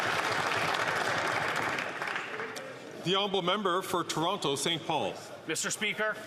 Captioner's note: some Applause